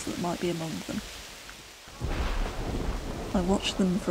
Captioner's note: thunder rolls